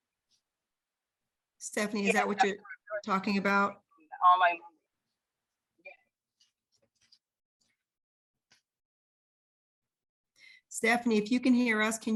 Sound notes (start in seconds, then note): 3.9 faintly speaking